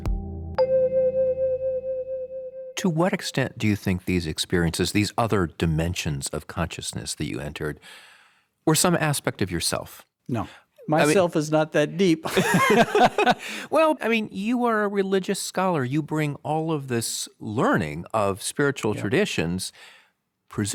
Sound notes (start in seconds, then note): 0.0 soft electronic music continues; 12.2 both laughing heartily